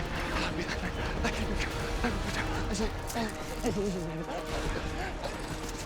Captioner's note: breathing fast and praying